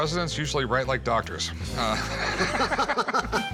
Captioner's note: laughs